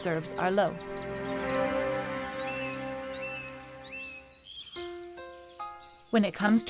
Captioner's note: birds chirping